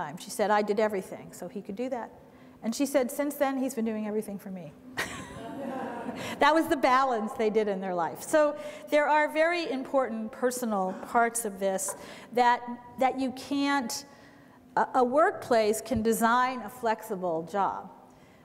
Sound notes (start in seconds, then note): 5.0 laughter